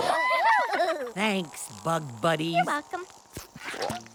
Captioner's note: giggles